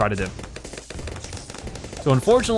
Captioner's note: weapons firing